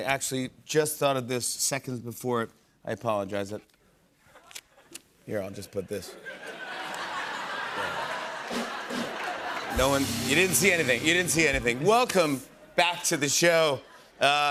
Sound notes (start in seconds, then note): 5.6 laughter; 8.4 rimshot